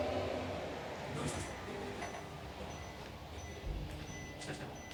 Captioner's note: heart monitor beeping